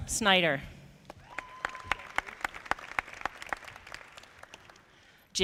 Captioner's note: audience clapping